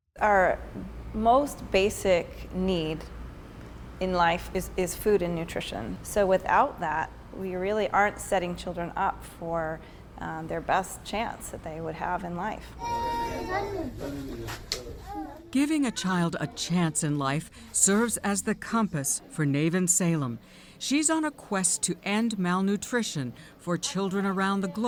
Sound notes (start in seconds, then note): 15.5 voice-over